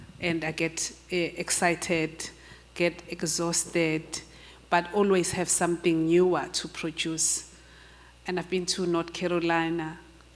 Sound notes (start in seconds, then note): none